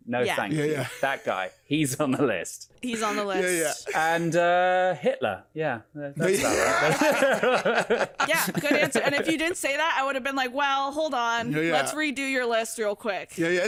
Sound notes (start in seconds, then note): 6.2 all laughing